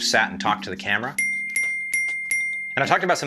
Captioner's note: dinging